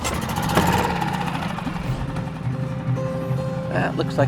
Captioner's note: engine starts